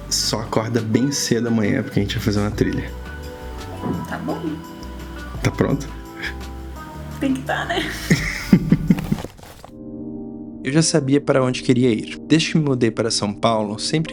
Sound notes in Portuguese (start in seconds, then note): 7.8 risadas